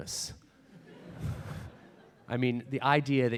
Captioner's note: audience laughs